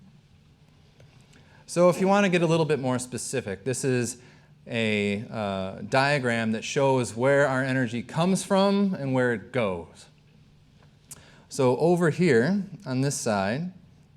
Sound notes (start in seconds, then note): none